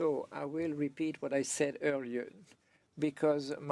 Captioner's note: speaking French